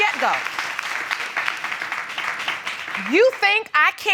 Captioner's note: audience clapping